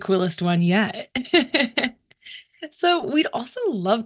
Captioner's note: chuckles